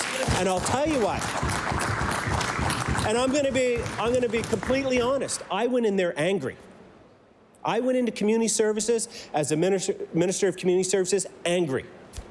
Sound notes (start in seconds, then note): 3.2 applause